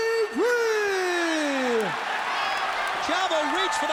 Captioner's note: audience cheers